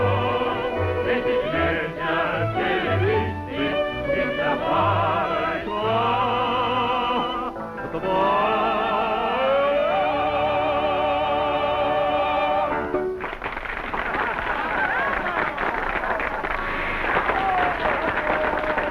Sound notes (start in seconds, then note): 13.1 audience clapping